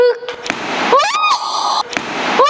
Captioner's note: screams